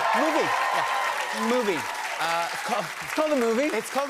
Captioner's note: cheers and applause